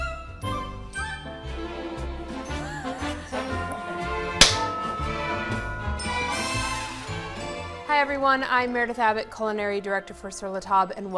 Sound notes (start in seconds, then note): 0.1 upbeat festive music; 2.6 laughing; 4.4 hands clapping; 5.9 upbeat festive music continues